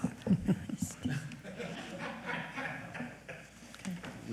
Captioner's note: panelist laughing